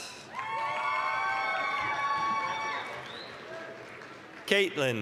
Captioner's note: applause, cheering